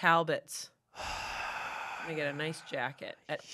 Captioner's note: sighs